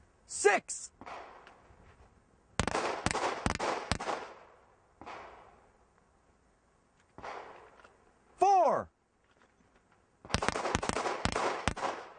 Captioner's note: gunshots